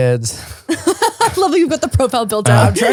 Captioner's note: laughing